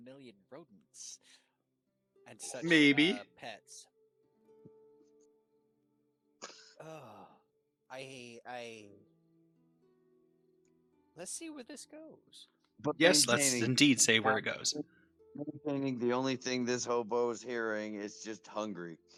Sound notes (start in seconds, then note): 6.5 sigh